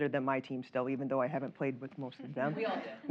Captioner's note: laughter